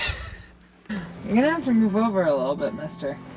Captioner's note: laughs